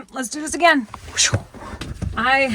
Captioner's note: imitates air whooshing